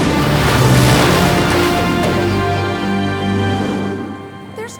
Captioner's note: laughing